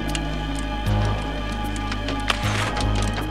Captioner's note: banging on roof; match strike